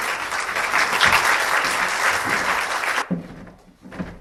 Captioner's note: applause